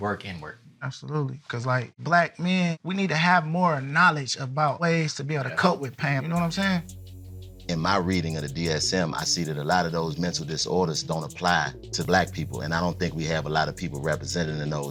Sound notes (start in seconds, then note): none